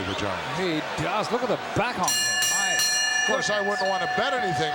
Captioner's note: bell rings